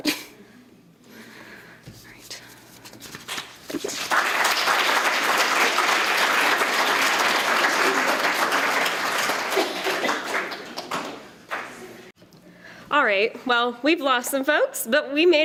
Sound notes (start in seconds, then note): 3.7 applause